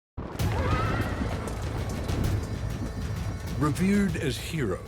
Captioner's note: horses whinnying